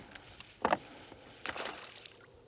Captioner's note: splash